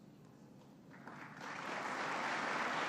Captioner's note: applause